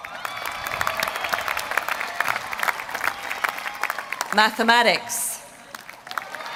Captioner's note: applause